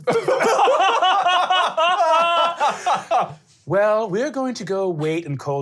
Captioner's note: laughing